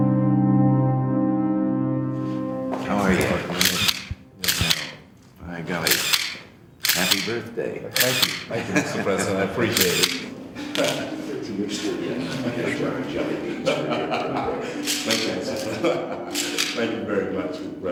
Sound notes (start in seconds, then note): 4.1 answers softly; 4.4 camera shutter clicking; 10.8 chuckles; 15.4 laughing